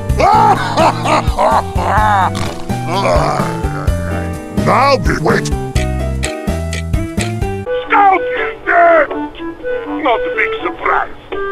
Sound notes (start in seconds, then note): 0.2 happy laughter; 2.8 snort, chuckling; 4.6 clock ticking to the beat of the music